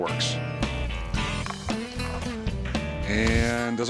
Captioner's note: clatters